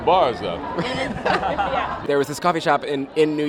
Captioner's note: laughter